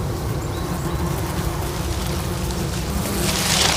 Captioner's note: flies buzzing